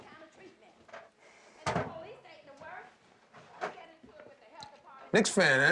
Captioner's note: owner arguing in background